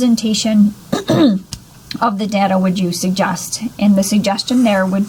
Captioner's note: clears throat